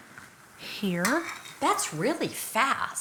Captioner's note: spoon tapping